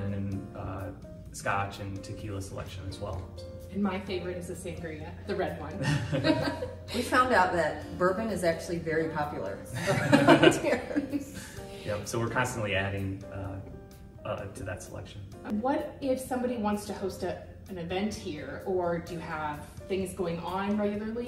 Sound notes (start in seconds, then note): 5.7 all laughing; 9.7 all laughing